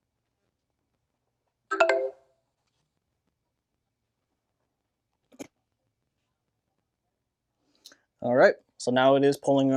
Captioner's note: beeping